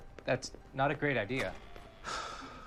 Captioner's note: sighs